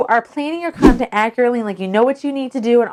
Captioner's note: whooshing air